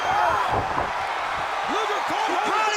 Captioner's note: body thudding